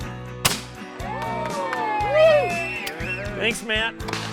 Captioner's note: voiceover; gunfire shot; teammates cheer